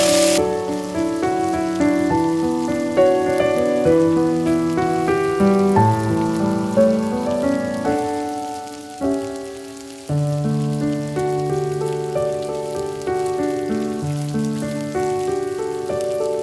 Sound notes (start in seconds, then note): 0.6 fry pan sizzle quiets down